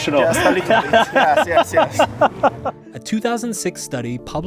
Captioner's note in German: lacht